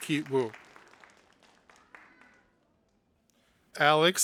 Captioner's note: audience applauding